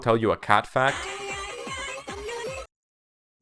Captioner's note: toy phone ringtone